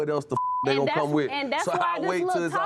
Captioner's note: beep